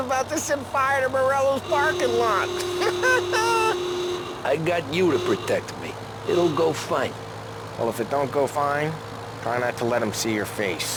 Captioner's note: laughs